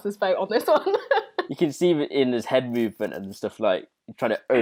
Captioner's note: laughs